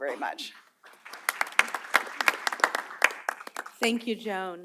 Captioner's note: applause